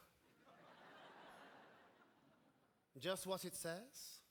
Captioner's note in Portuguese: audience laughing